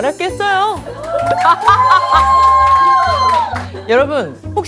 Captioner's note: haha